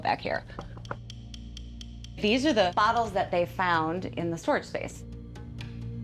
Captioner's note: fingers tapping